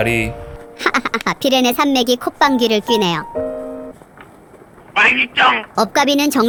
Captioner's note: The Pyrenees are laughing